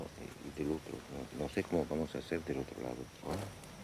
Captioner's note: Spanish spoken audio